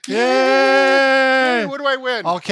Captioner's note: cheering